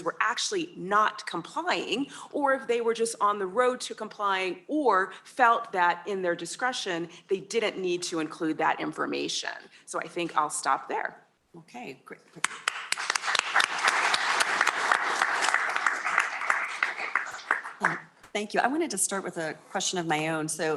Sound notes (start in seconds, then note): 12.4 applause